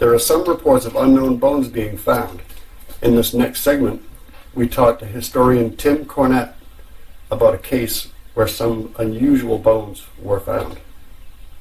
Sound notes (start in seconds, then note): none